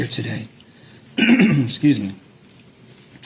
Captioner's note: clears throat